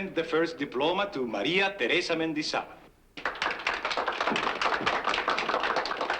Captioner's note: applause